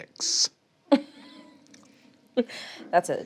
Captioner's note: chuckles